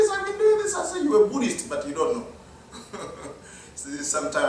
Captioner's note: laugh